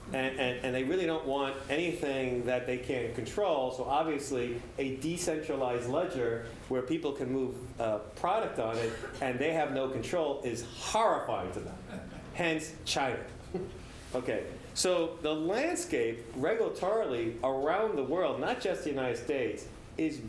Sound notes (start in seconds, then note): 11.7 laugh